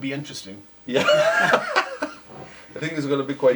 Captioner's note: laughing